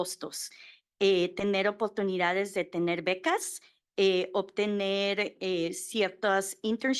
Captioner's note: Spanish